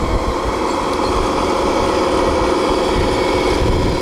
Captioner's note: motor running